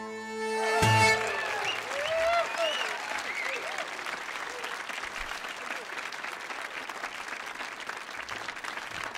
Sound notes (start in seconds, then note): 0.7 audience applauding and cheering